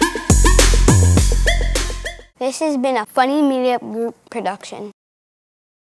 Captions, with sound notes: - [Child's Voice] This has been a Funny Media Group production.